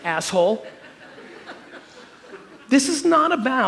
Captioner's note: audience chuckling